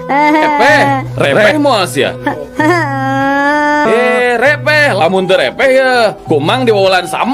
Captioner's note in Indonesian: tertawa